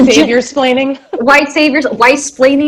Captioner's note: laughs